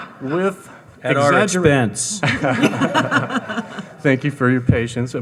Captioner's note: audience laughing; audience laughing; laughs